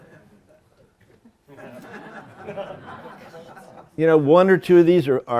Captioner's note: laughter